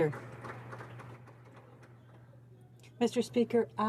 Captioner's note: some Applause